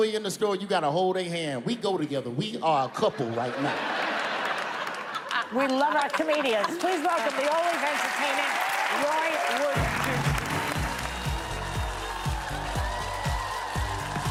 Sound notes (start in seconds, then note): 7.1 laughter